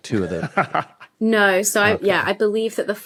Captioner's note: laughs